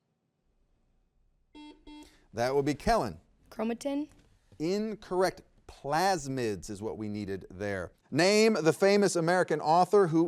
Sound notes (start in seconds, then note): 1.5 buzzer beeps